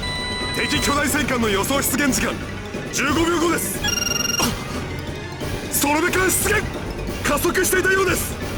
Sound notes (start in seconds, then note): 4.7 gasp